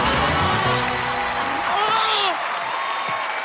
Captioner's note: cheers and applause